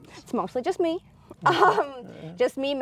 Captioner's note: laughs